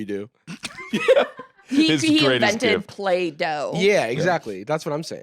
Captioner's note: laughs